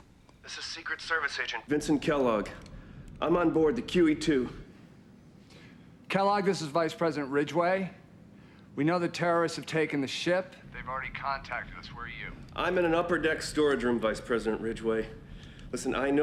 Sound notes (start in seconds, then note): none